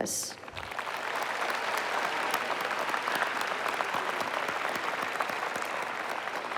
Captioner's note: applause